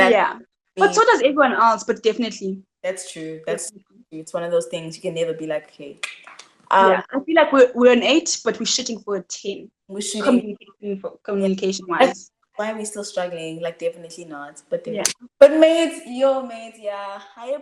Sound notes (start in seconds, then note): 5.8 clicks tongue